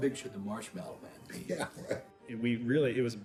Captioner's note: laughs